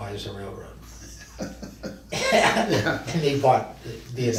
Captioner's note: both men laugh